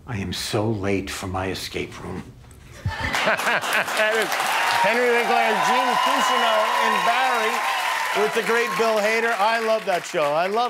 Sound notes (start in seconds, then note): 2.8 laughter